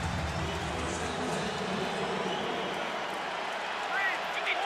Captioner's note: pa announcement